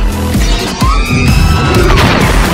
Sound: R2-D2 scream

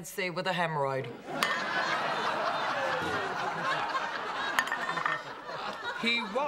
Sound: laughter

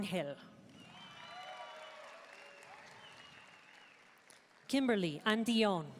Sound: audience cheering and applauding

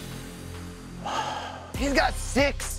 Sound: big sigh

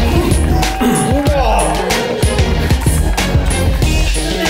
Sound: groans

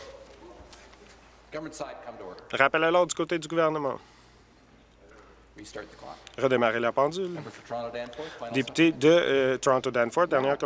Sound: conversation din

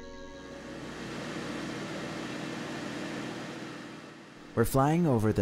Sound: plane engine roaring

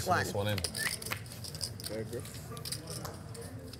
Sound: whistling

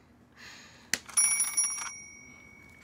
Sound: phone rings

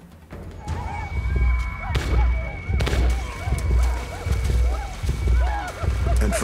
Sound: arikaras yell, gunfire

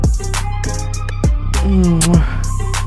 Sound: kisses

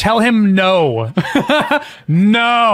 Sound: laughs

